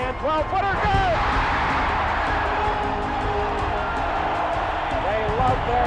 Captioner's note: cheers and applause